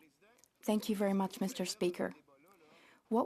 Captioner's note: speaking French